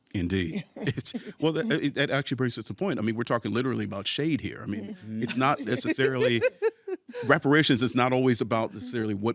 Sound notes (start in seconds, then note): 0.6 chuckles; 5.2 laughing